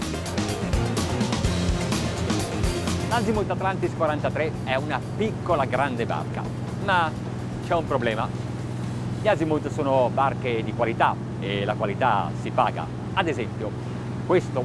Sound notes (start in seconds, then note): 0.0 upbeat music; 3.2 speaks in foreign language